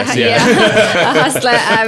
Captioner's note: laughing